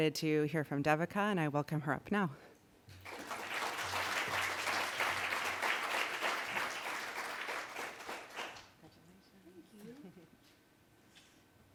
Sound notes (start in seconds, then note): 3.0 applause